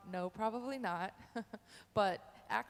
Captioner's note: chuckles